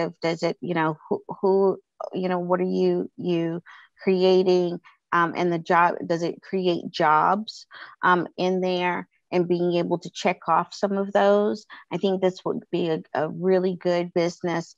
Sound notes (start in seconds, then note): none